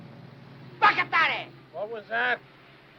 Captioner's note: speaking in foreign language